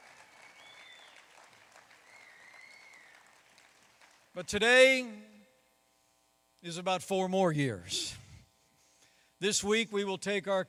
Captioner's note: applause